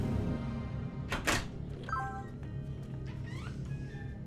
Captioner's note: phone beeps